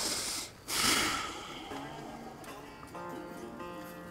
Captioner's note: sighs